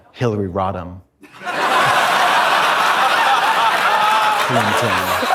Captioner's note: audience laughs